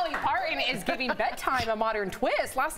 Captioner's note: laughter